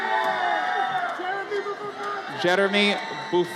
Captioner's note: audience cheers